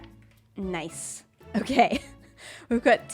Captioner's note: laughs